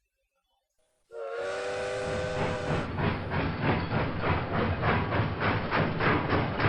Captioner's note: train whistles and departs